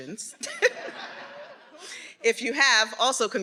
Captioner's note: everyone laughing